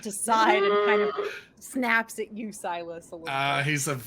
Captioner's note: Pivm roars